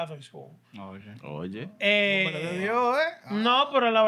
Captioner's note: non-english Speech